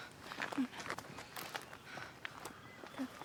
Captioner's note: Ura mumbles